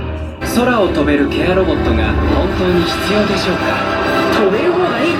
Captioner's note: announcer speaking Japanese